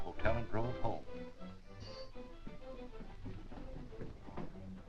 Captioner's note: doorbell buzzing